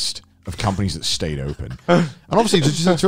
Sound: chuckles

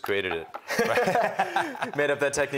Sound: laughter

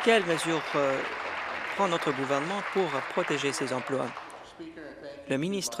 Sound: applause

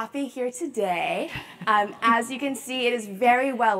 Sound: laugh

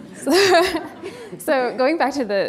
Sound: laughing

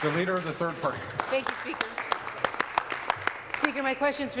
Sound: applause

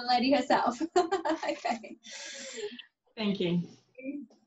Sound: laughs

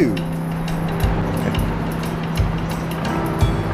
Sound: chuckles

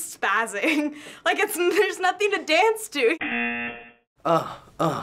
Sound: buzzer

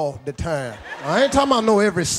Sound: audience laughs

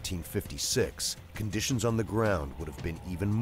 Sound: voiceover

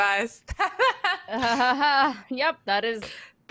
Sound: laughing

